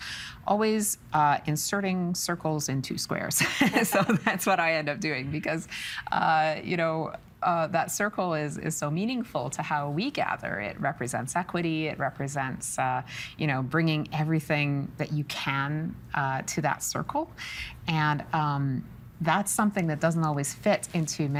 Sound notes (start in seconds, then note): 3.1 laughing